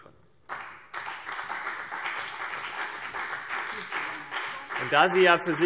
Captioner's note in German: Beifall CDU und BÜNDNIS 90/DIE GRÜNEN